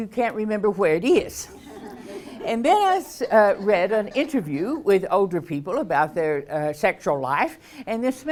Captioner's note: laughs